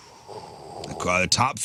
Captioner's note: exhaling